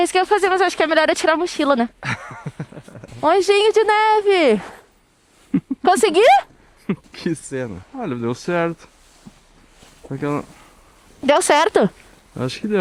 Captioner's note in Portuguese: risadas